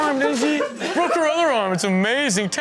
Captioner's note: men laughs